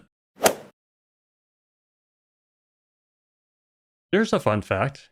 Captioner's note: golf ball hit sound